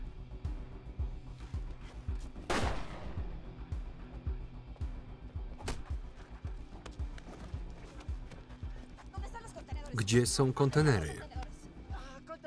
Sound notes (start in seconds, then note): 2.4 gun firing; 9.3 speaking foreign language